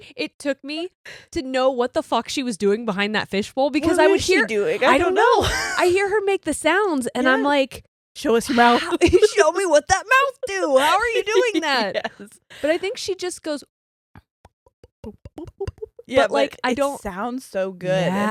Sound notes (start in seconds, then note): 10.6 giggles; 14.7 imitates fish globbing